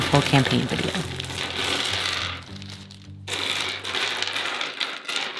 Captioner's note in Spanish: rocas chocando